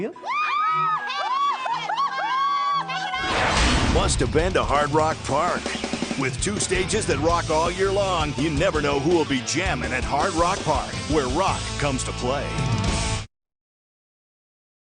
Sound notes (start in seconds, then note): 0.1 ladies cheer; 3.3 Hard Rock Park logo whooshes then clangs; 5.5 rock music; 12.7 hard rock music